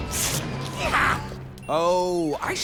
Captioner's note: cat hisses and scratches; grunts in pain